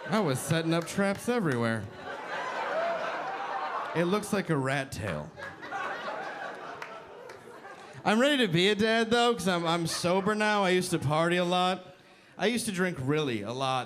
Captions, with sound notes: I was setting up traps everywhere. It looks like a rat tail. (audience laughing) I'm ready to be a dad though 'cause I'm sober now, I used to party a lot. I used to drink really a lot,